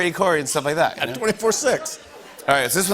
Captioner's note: laughter